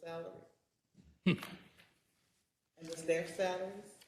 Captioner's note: laugh